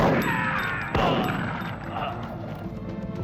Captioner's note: screaming